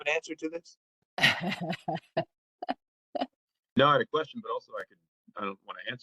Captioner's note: laugh